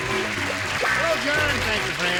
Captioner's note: applause